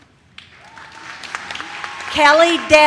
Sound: audience cheers

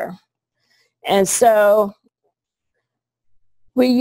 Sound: pause

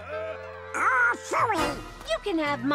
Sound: laughs

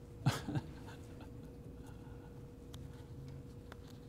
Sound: chuckling

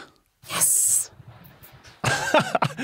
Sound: whispers; laughs

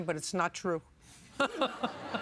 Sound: chuckles

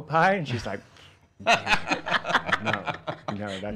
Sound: laughing

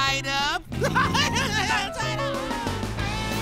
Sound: laughing

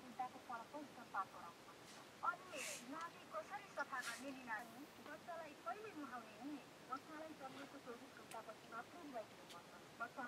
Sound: radio sounds

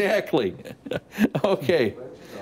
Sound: laughter

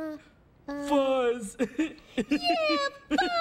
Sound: laughs

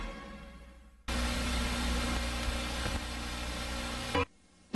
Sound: TV static

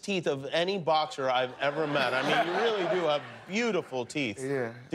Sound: laughter

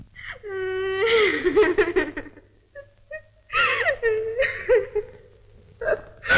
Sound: crying

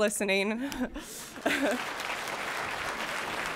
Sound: applause

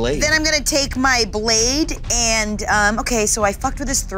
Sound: none

